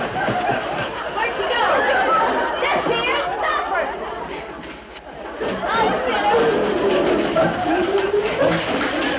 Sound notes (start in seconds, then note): 1.2 audience laughs; 5.2 choir harmonizes; 5.4 beds rattle